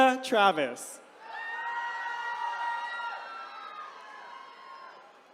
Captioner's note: attendees cheering